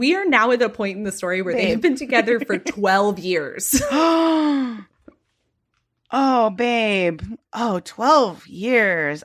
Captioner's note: gasps